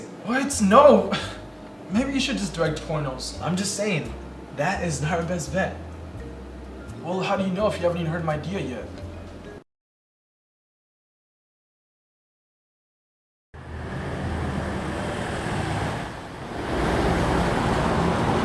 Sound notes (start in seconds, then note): 13.6 traffic whooshing